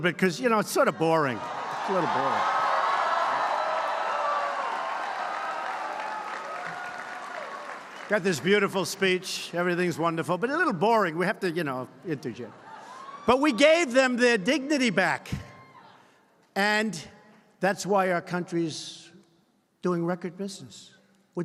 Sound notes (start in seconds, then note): 2.7 applause